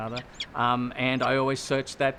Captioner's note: peregrine falcon call